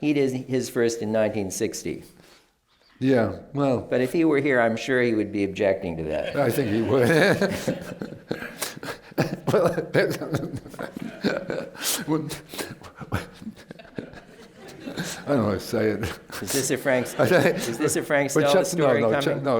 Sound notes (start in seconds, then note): 6.2 laughs; 6.3 laughter